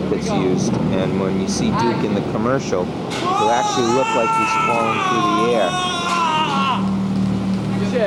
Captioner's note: Duke yelling as he falls